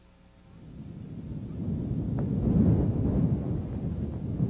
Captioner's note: wind blowing